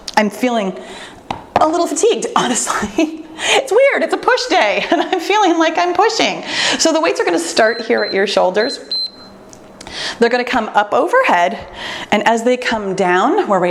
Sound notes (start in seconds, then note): 3.0 laughs; 8.5 timer beeps